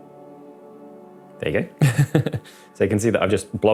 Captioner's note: laughs